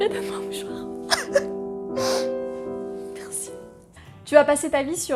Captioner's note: crying